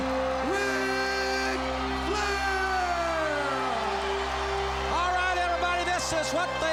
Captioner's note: crowd cheers